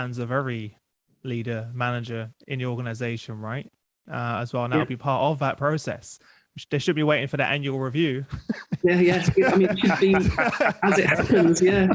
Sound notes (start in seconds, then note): 8.2 laughs